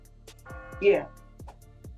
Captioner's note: bell tolls